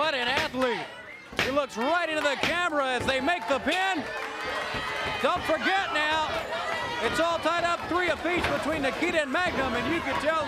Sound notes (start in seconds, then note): 5.5 crowd cheering